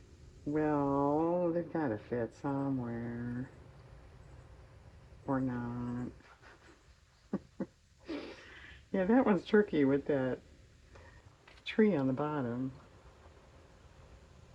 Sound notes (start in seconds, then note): 6.2 laughs